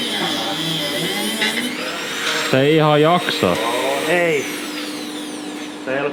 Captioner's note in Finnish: taustahälinää